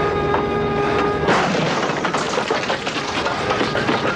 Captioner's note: wood crashing